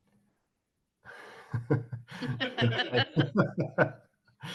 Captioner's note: laughing